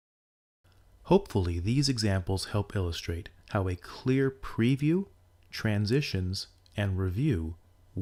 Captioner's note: voice-over